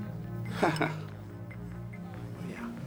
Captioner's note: chuckling